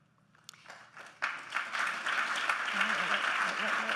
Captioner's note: audience clapping